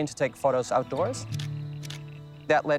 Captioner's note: camera clicks